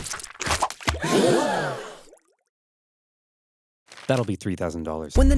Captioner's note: Carthaginian soldiers gasp